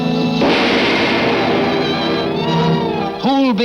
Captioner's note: gun fires